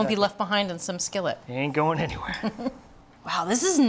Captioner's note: laughs